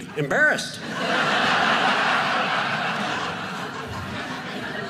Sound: audience laughing

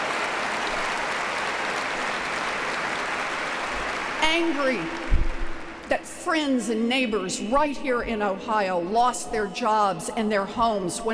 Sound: applause

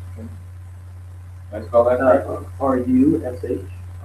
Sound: laughs

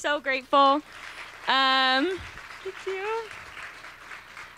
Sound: applause

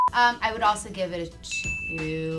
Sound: beep

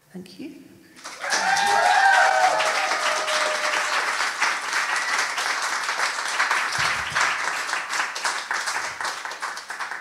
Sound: audience cheering

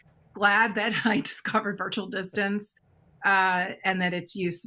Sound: chuckles

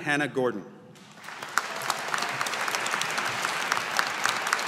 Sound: audience applauding

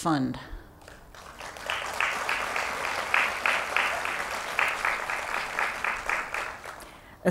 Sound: applause

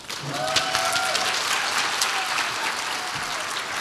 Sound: audience applauds

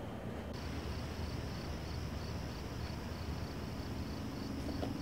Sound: crickets chirping

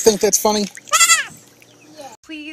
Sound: goat screams again

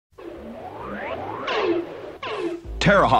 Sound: electronic beeping

